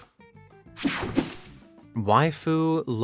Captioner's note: whooshing sound